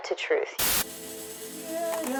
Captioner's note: static hissing; vocalist singing in foreign language